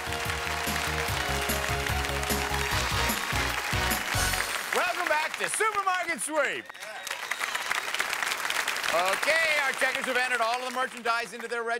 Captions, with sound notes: (upbeat pop music) -Welcome back to Supermarket Sweep! (applause) Okay, our checkers have entered all of the merchandise into their registers.